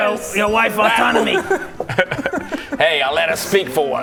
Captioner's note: repressed laughter